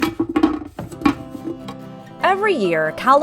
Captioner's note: sound of a can of painting opening